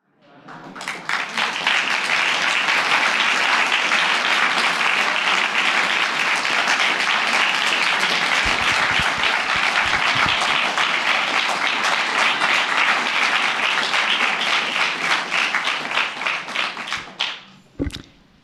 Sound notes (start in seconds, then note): 2.9 audience applauding